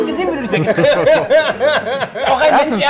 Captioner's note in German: Lachen